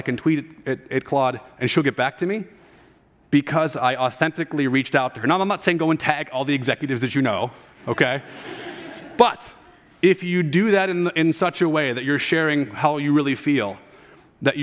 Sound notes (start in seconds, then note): 7.9 audience laughter